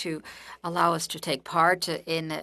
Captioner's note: speaking French